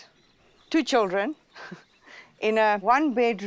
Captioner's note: laughs